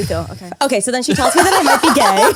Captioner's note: laugh